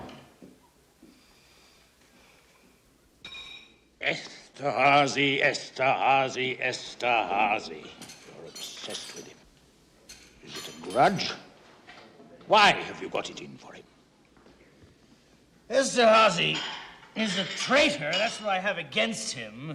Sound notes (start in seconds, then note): 1.0 exhales